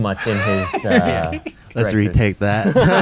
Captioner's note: laughs